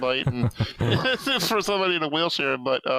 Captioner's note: laughs